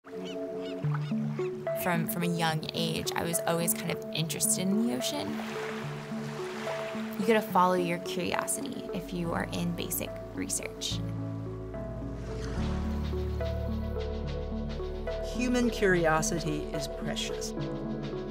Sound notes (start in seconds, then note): 0.0 pleasant music; 5.1 waves crashing